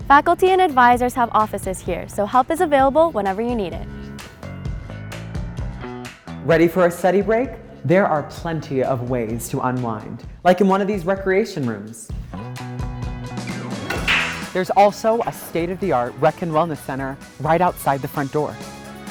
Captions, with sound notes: Faculty and advisors have offices here, so help is available whenever you need it. - Ready for a study break? There are plenty of ways to unwind, like in one of these recreation rooms. (upbeat music) (pool balls clack) There's also a state-of-the-art rec and wellness center right outside the front door.